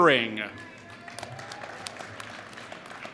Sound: applause

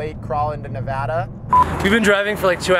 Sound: beep

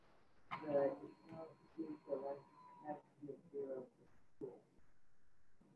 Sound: speaking faintly

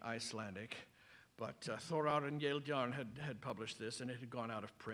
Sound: non-english speech

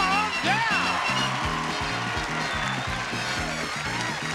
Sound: audience cheering

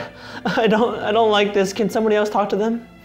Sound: tearfully

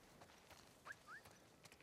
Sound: whistle

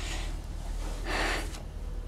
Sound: exhales

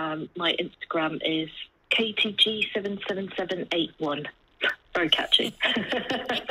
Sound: laugh

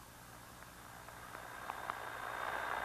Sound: radio static

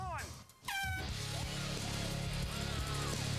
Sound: cheering

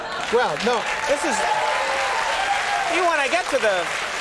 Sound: applause and laughter

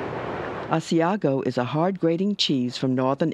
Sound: voiceover

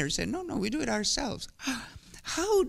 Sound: gasps

